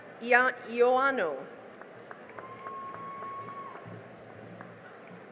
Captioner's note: cheering and applause